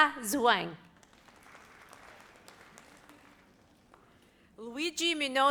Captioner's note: audience applauds